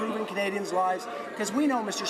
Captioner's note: none